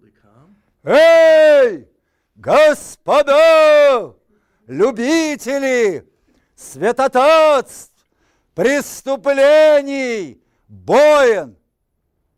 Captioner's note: reciting poem in Russian